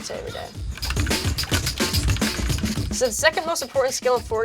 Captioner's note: rapid mouse clicking